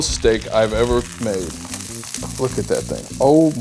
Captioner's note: pan sizzling